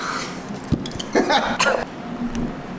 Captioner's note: gags